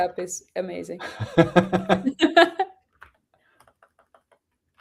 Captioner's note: laughter